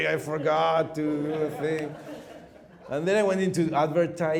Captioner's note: laughing